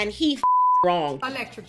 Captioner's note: beep